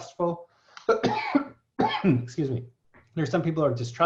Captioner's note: coughs